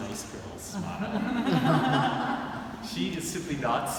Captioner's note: audience laughing